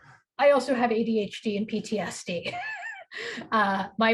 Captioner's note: chuckles